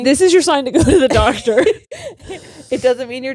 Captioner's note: both laughing